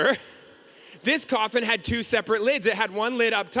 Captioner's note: none